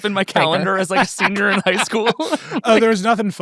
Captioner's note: laughs